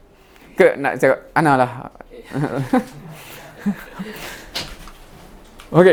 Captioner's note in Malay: ketawa